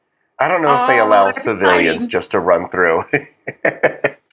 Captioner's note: laugh